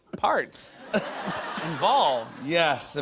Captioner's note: laughter